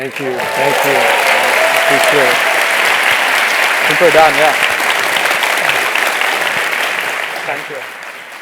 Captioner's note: applause